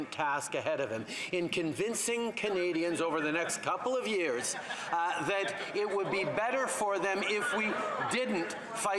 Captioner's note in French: voix de l'interprète